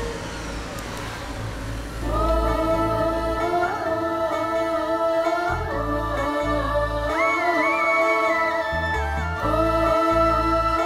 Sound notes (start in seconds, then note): 1.9 emotional vocalising